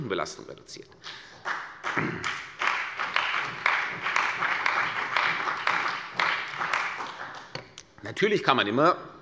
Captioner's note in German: Beifall bei der CDU und dem BÜNDNIS 90/DIE GRÜNEN